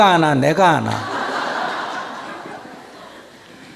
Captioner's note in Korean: 청중 웃음